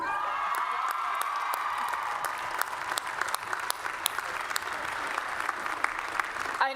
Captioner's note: applause and Cheering